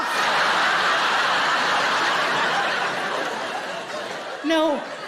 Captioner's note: audience laughing